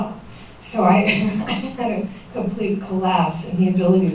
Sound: chuckles

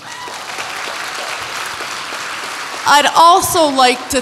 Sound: audience applauds

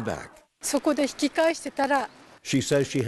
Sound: speaking japanese

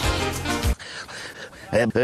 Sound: hyperventilation

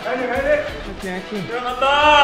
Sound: cheering from the youngest coach

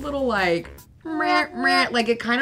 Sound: imitates sad trombone

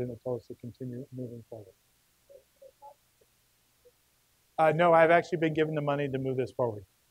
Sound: murmuring

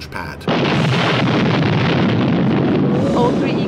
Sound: loud explosion

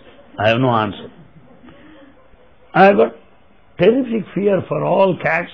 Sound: laughter

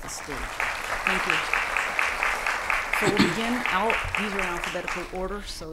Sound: applause

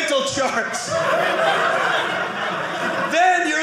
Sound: audience laughing

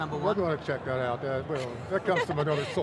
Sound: laughs

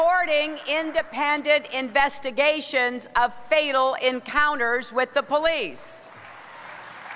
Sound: applause

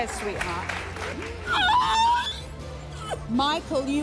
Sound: crying

